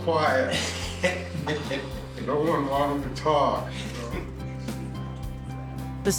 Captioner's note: laughing